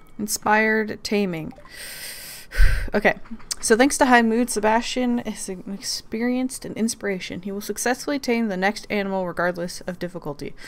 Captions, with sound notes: Inspired taming. *excited breath* Okay so "thanks to high mood Sebastian has experienced an inspiration. He will successfully tame the next animal regardless of difficulty.